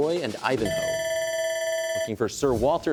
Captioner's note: bell ringing